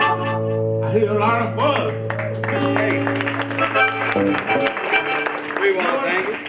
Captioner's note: audience applause